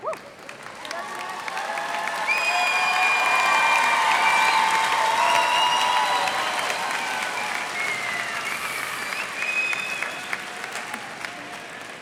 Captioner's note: cheers and applause